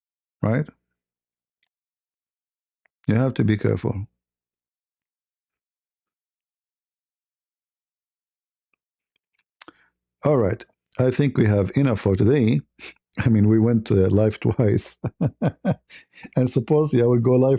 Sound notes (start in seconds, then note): 12.6 snorts; 14.4 laughter